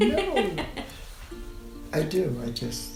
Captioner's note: laughing